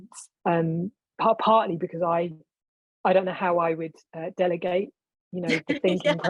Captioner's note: laughing